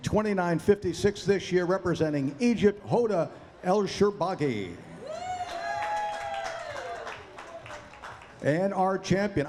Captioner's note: cheering; applause